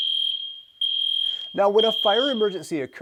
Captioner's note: fire alarm rings